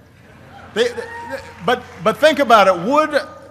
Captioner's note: applause